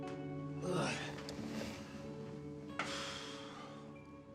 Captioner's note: Abe groans and sighs